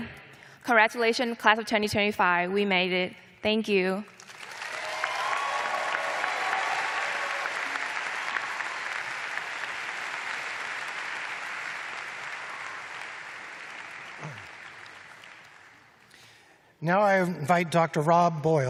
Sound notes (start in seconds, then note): 1.2 applause